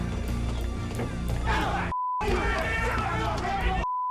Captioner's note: yelling